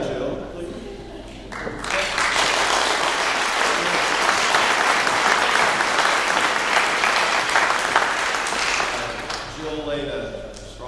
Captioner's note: clapping